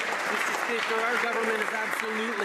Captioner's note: some Applause